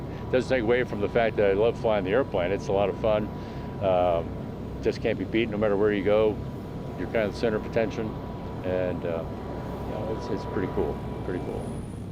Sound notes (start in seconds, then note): 4.0 plane engine hums